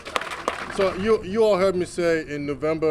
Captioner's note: applause